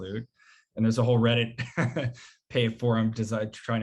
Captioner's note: chuckles